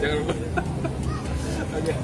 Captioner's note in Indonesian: laugh